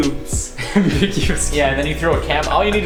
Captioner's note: laughter